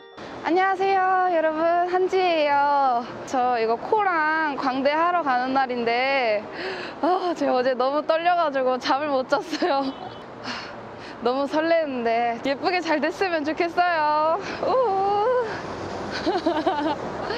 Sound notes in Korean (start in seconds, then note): 10.1 날숨